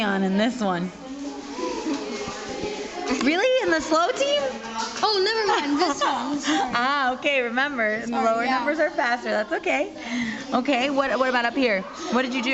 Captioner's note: laughter